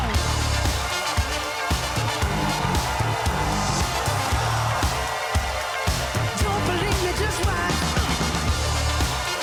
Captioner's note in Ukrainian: оплески